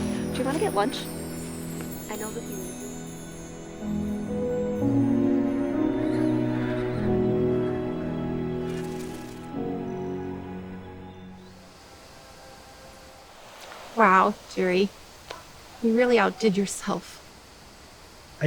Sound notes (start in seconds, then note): 3.7 gentle music; 6.0 horses braying